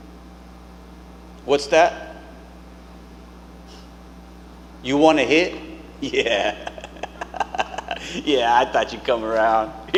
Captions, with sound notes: What's that? You wanna hit? Yeah. [chuckling] Yeah, I thought you'd come around.